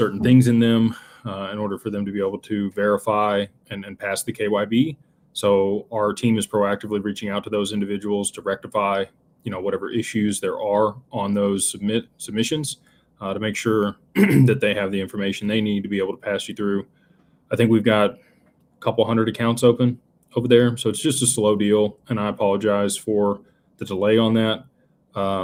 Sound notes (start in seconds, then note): 14.1 clears throat